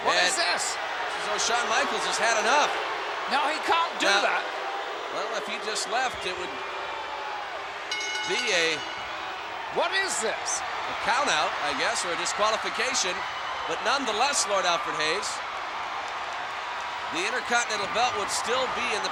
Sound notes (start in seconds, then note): 7.6 crowd boos; 7.8 bell rings